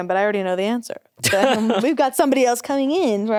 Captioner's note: laughs